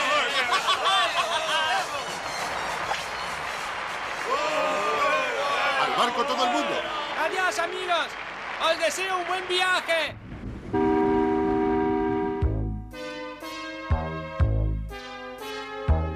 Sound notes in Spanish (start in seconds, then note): 0.0 ríe; 10.1 silbido